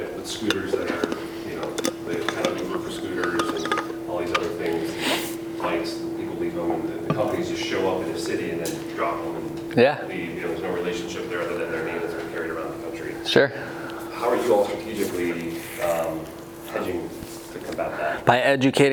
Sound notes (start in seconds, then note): 11.7 murmurs